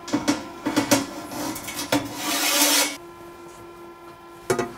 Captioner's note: metal scraping